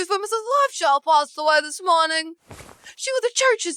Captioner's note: none